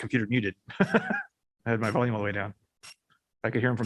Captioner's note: laughter